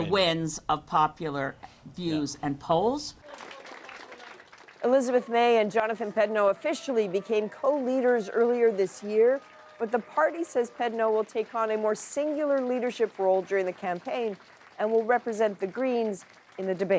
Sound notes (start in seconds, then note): 6.9 applause